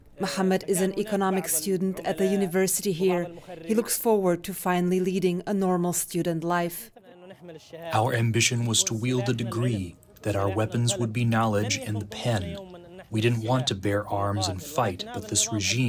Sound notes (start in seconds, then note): 8.6 through translator